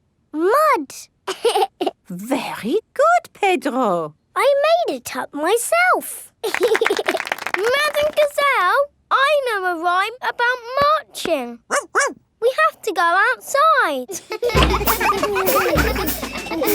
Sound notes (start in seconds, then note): 1.2 laughs; 6.4 laughing and clapping; 11.7 barks; 14.0 children laughing